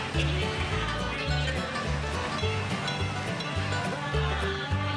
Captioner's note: country christmas music; train bells; country christmas music